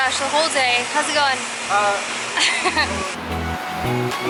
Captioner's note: laughter